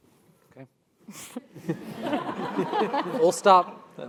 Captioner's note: laugh